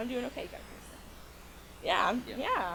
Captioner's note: buzzing drowns out speaker